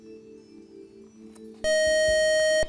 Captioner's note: buzzer